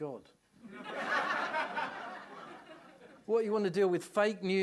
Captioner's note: laughter